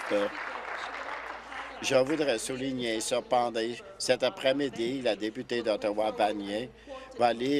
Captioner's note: applause